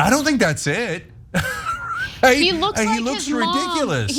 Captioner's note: laugh